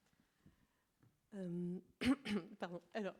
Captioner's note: coughs